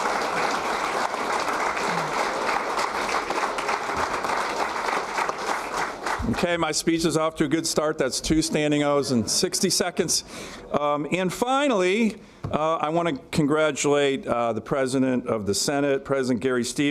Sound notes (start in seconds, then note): 4.4 applause